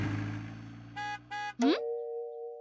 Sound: honking

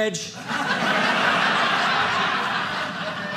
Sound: audience laughing

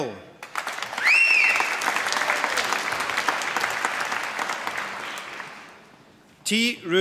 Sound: applause and whistling

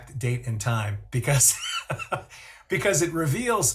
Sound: chuckles

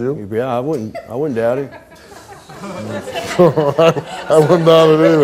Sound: audience laughing

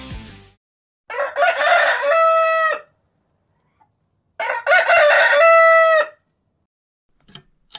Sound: rooster alarm sound

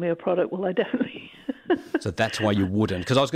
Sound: laughs

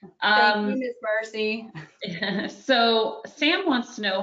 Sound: mumbles

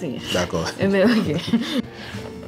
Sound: giggles

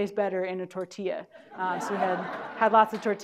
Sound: audience laughing

